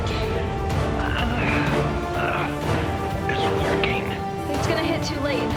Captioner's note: groans